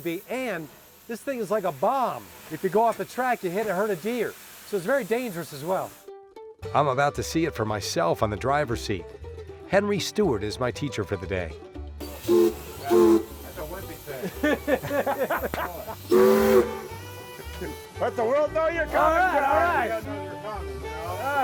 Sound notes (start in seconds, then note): 12.0 soft whistle blowing; 16.0 loud whistle blowing